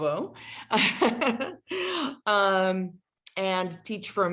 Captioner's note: laughter